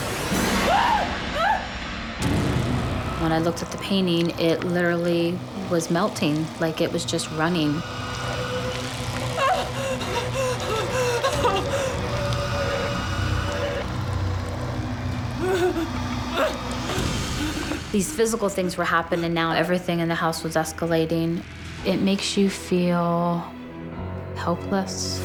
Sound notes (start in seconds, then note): 0.6 screaming; 9.3 gasping